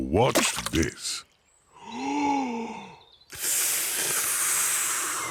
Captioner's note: takes big breath and blows